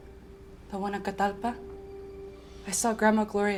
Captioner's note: spanish